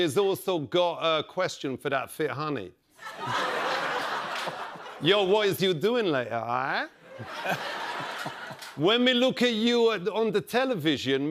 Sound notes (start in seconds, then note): 3.0 laughter